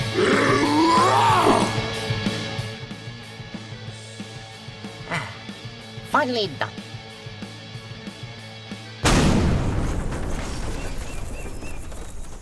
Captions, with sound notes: Ah! Finally done! [explosion]